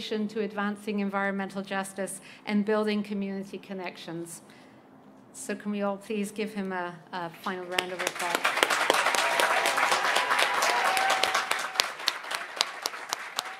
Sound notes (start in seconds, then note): 7.5 applause